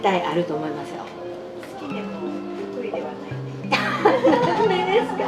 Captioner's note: laughs